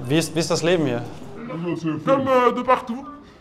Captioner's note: distorted, French